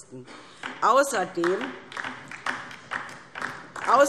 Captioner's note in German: Beifall DIE LINKE